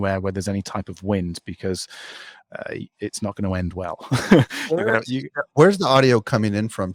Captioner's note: laughs